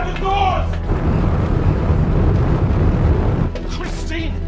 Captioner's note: suspenseful music continues; rover droning